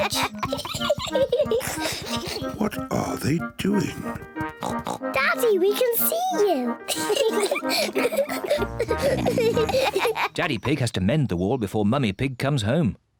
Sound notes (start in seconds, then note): 0.0 both laugh; 4.4 oinks; 6.9 both laugh